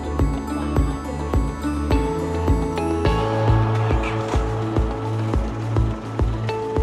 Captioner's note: sound of Boats